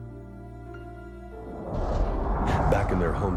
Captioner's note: whooshing